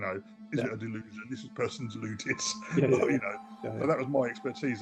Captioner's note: chuckles